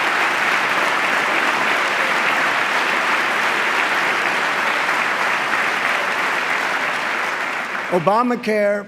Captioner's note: applause